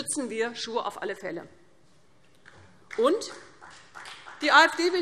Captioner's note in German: Beifall CDU, BÜNDNIS 90/DIE GRÜNEN und SPD